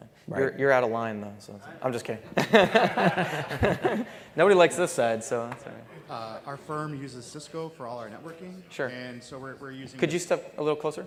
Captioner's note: laughter